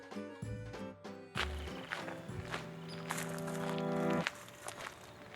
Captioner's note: shoes crunching